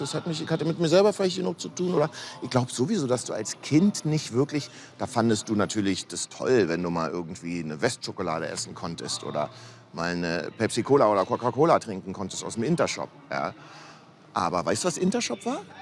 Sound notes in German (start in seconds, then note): none